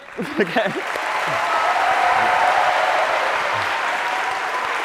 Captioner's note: cheering and applause